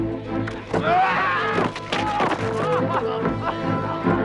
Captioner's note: guard screams